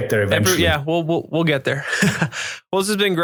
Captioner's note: laughs